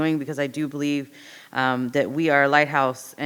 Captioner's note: none